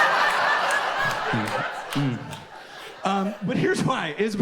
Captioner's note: audience laughs and applauds